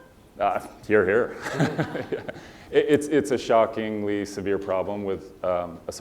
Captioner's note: laugh